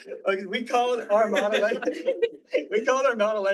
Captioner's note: all laughing